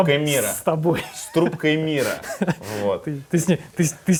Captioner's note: laughs